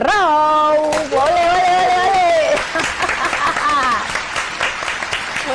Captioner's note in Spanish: Aplausos